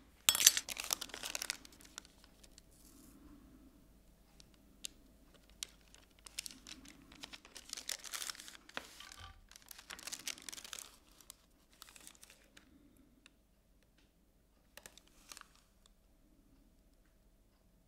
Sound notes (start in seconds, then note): 0.3 restoration pick thuds; 0.3 rustling; 7.9 rustling